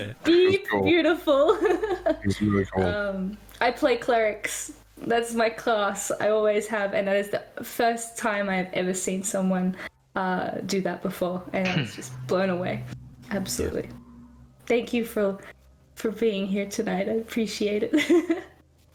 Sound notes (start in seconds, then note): 1.4 giggles; 11.6 agreeing noise; 18.0 giggles